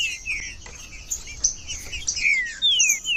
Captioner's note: trinca ferro cantando